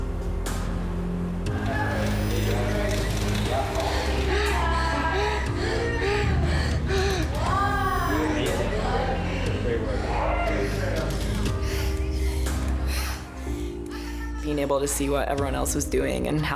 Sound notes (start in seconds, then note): 4.3 wheezes; 10.5 wheezes